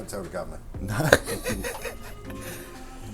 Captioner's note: laughter